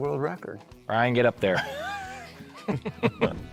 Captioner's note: men laughing